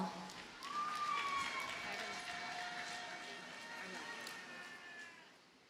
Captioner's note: audience cheers and applauds